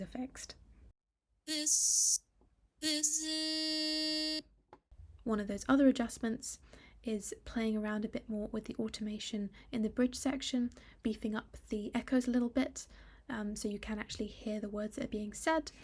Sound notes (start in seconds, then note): 1.0 auto tuning a word